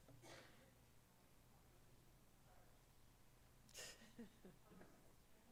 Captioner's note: speaks away from microphone